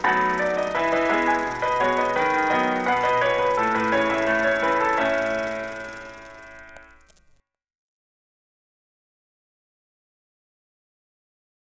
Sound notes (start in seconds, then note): 0.0 ragtime music; 7.8 silence